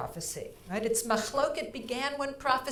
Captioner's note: speaking in foreign language